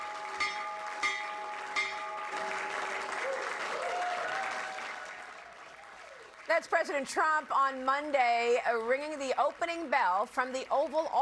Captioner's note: cheers and applause